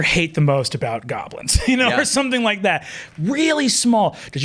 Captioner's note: chuckles